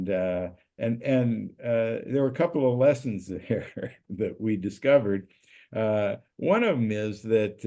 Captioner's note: laugh